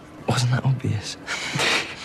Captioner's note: chuckles